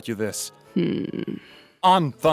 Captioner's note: judgemental Hmmm